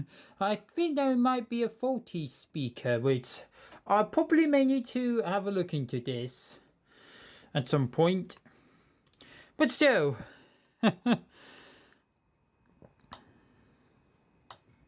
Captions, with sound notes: I think there might be a faulty speaker which, I probably may need to have a look into this at some point, But still. [CHUCKLES]